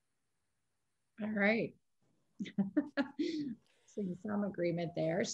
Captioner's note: laughing